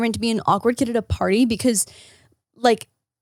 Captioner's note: none